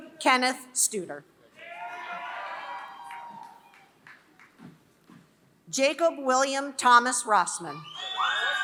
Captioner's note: applause; applause